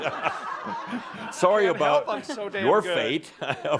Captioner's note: laughter